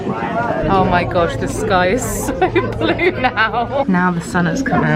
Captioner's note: laughs